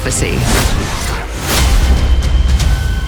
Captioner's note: slashing sound